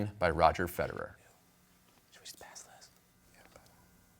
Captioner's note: whispering